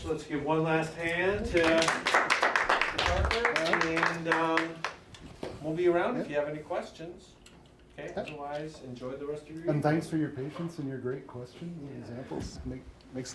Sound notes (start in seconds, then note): 1.5 group applauds